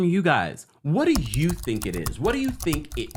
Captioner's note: keyboard clicking